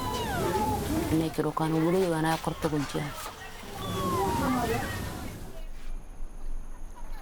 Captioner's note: speaking in foreign language